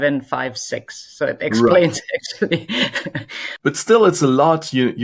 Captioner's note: laughs